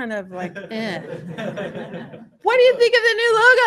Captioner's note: laughter